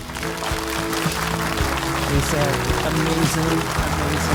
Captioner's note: audience applauding